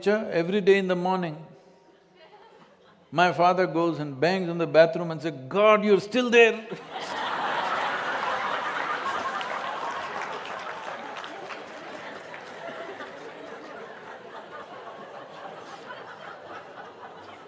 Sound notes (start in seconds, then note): 9.7 laughter/Applause